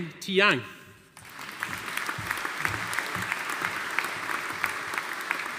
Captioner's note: audience applauding